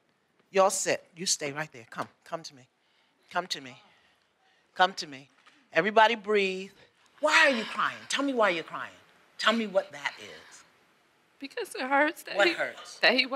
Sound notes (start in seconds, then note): 7.4 exhales